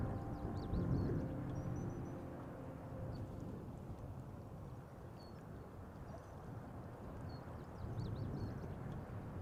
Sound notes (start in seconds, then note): 0.0 birds chirping; 1.9 wind rushing; 5.6 water babbling